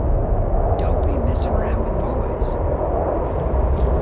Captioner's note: woman's Voice